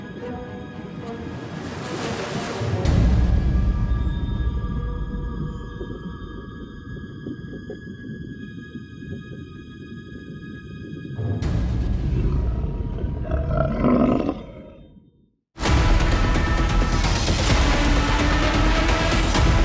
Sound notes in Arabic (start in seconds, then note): 4.6 خرخرة الماء; 4.6 موسيقى هادئة; 13.6 هدير مخلوق البحر; 15.6 موسيقى جريئة مخيفة